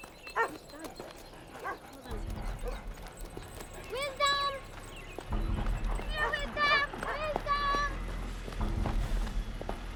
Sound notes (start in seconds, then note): 5.9 dog barking